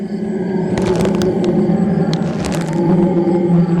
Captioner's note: tree thumping to the ground; Bailey hyperventilating; brush rustling